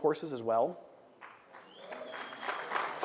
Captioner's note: applause